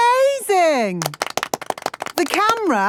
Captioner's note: applause